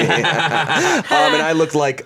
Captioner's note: everyone laughs